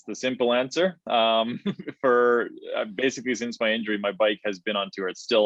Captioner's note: chuckles